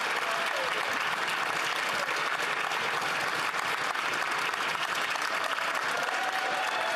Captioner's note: applause; cheering